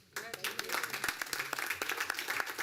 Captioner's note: applause